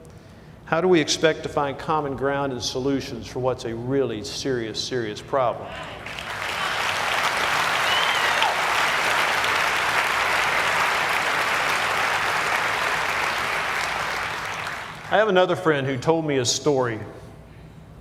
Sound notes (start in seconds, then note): 6.0 cheers and applause